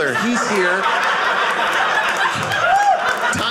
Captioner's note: audience laughing